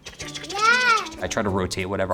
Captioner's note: mimics deodorant rubbing